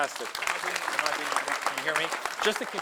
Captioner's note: audience applauding